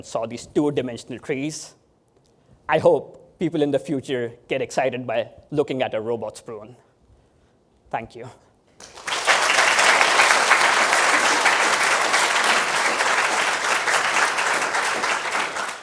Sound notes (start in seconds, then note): 8.8 applause